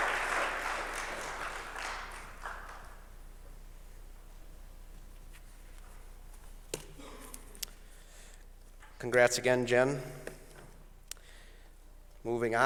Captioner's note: applause